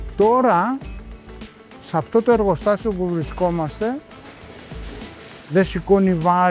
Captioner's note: speaking in foreign language